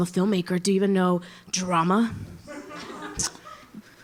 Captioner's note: Risas